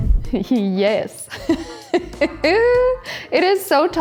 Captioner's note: laughs